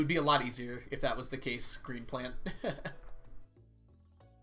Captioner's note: laughs